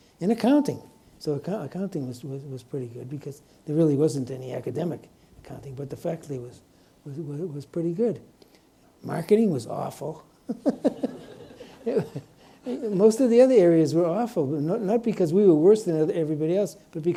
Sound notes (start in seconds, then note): 10.4 chuckles